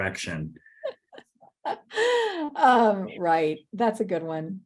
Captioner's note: chuckles